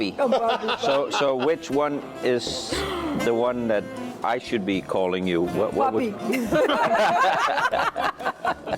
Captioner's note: laughter